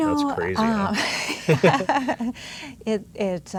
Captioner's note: laughs